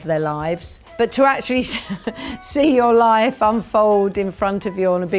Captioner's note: chuckles